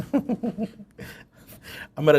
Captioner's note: laughter